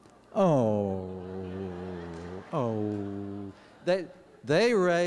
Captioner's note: awwww